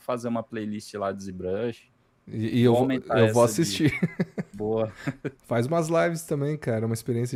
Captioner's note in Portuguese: risadas